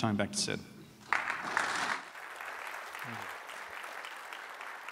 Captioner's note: applause